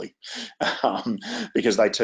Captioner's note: chuckles